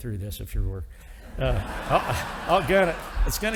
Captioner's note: audience applauding